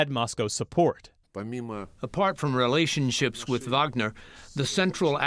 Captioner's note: through translator